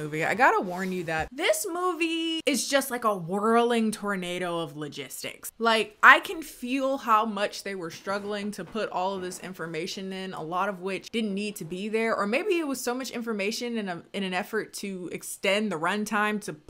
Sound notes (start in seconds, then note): none